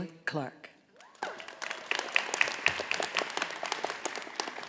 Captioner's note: audience applauding